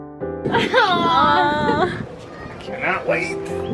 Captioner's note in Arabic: تضحك